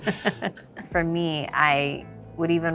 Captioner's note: Kim chuckles